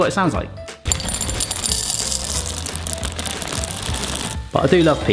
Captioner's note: peas clink in bowl